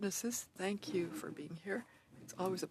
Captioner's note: speaking French